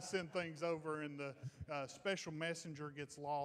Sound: crowd laughing

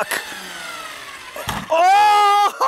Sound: RC truck wheels spinning

